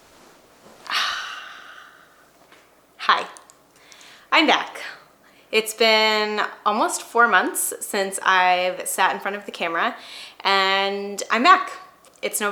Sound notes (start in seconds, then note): 0.8 sighing